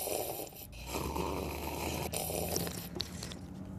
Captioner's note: slurping